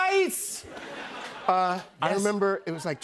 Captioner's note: laughter